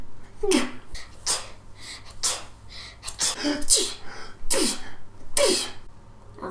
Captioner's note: Doctor Garneau and Librarian sneezing